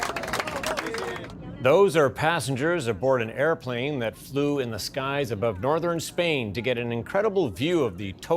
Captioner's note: cheers and applause